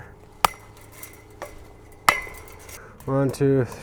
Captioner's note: chain link snapping